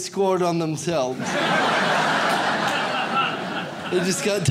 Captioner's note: audience laughs